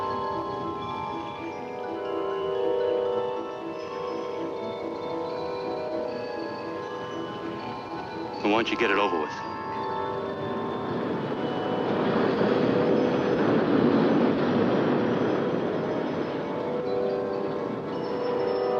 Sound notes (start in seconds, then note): 0.2 cheerful music; 11.3 roller coaster rattling; 16.1 tense music